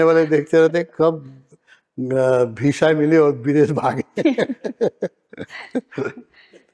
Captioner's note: laughs